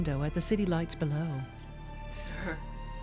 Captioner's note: voice Quavers